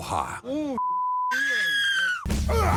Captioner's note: woman screams